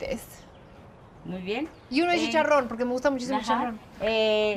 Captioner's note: both speaking Spanish